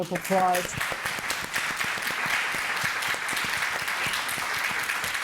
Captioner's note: audience applauding